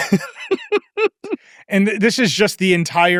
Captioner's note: laughs